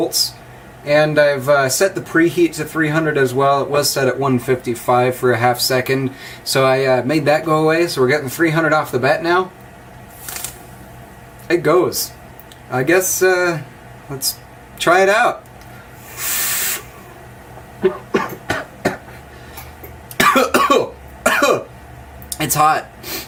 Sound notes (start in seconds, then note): 16.8 coughing